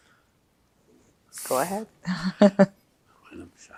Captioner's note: laughing; pauses 6 seconds